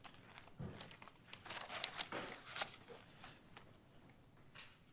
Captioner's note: paper crinkling